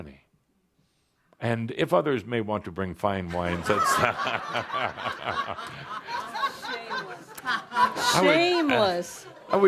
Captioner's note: lots of laughter